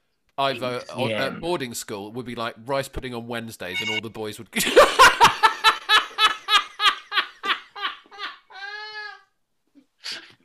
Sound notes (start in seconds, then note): 3.8 phone rings, laughter; 9.2 extended laughter